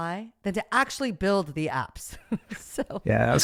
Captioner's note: laughs